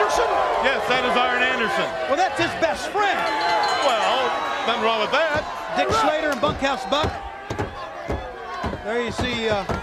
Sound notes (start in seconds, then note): 3.2 bell ringing